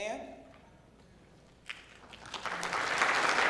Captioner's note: clapping